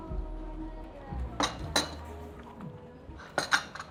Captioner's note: cup clatters